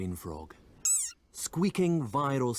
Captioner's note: frog squeaks